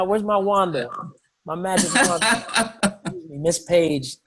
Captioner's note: laughs